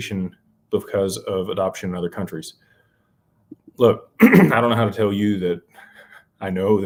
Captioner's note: clears throat